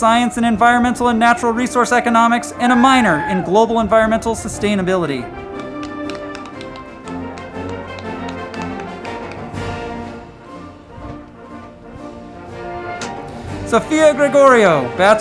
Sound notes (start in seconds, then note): 5.4 crowd clapping; 5.7 band music